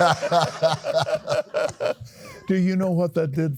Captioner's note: laughs